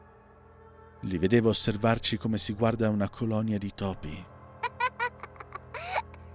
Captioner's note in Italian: risate